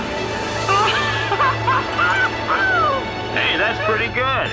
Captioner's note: laughing